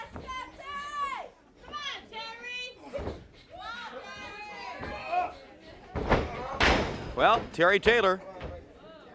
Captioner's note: crowd chatter